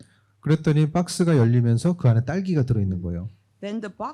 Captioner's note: speaking korean